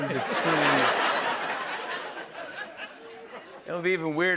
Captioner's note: laughter